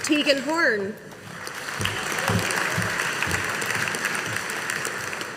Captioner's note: audience applauding